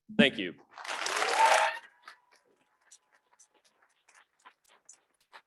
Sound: audience clapping

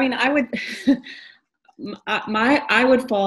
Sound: laughs

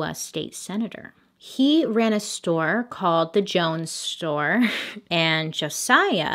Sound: slight laugh

